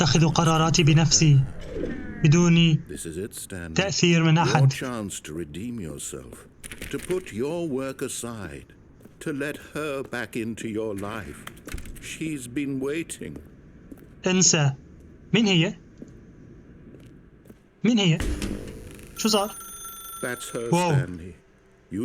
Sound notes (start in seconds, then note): 13.1 phone ringing